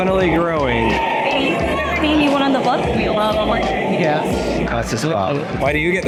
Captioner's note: crowd humming